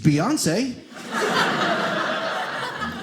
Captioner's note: audience laughing